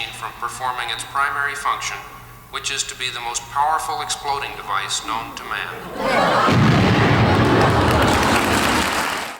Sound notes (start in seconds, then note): 5.6 audience laughs; 6.4 explosion; 8.1 audience applause